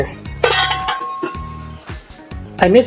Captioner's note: clank